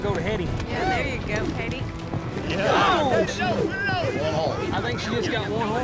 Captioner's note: everyone shouting